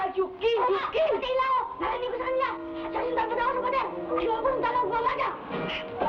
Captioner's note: boy shouting in Tagalog